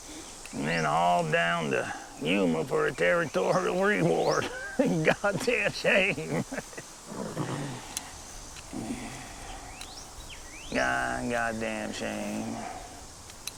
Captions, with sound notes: Man, all down to Yuma for a territorial reward. (chuckles) A goddamn shame Yeah, a goddamn shame.